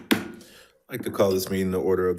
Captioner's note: object banging